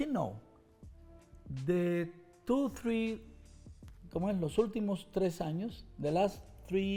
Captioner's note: speaks Spanish